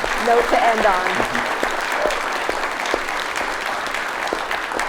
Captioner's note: audience applauds